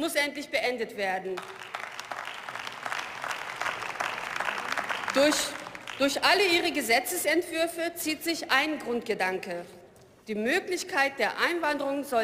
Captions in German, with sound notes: muss endlich beendet werden. (Beifall) Durch alle Ihre Gesetzesentwürfe zieht sich ein Grundgedanke, die Möglichkeit der Einwanderung